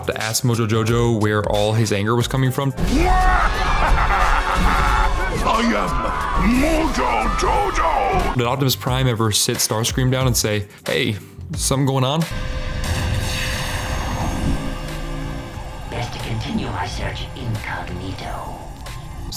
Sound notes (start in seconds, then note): 3.0 evil laughter